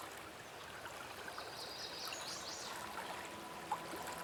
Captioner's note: birds singing; soft dramatic music